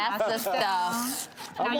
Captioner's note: paper rips